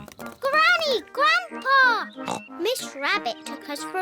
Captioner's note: oinks